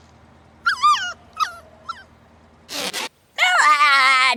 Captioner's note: whining